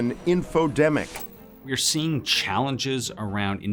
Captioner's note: TV clicking